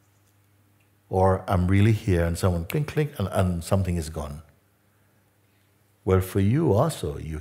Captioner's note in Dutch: klik